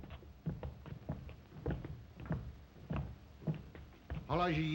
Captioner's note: footsteps; Zaroff speaks Russian